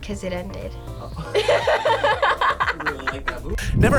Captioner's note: both laugh